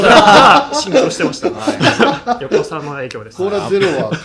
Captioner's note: laughs